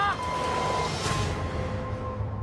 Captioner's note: groans